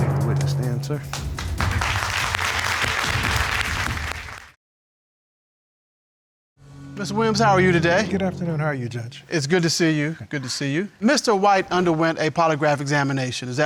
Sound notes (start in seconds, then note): 1.1 audience applauding